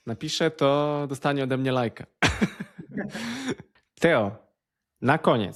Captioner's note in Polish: śmiech